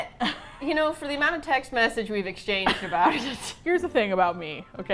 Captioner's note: both laugh